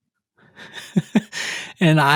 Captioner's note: chuckles